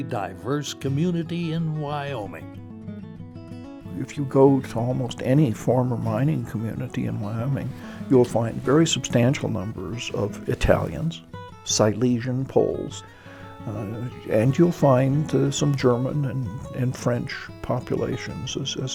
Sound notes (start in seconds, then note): 5.3 voiceover